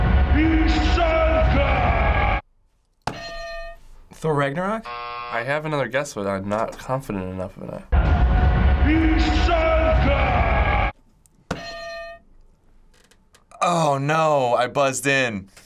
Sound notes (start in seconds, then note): 0.1 man yelling in foreign language; 3.1 hitting bell; 4.8 buzzer; 8.6 man yelling in foreign language; 11.6 hitting bell